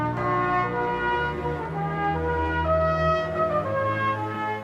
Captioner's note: bell tolls